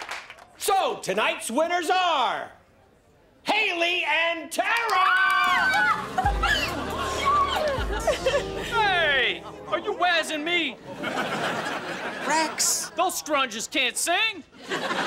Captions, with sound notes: So tonight's winners are... Haley and Tara! [screaming] Yay. Hey, are you wazzin' me? Rex. Those scrunges can't sing.